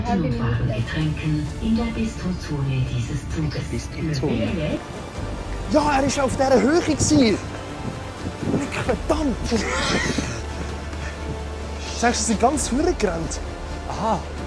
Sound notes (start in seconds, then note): 9.3 laughs mischievously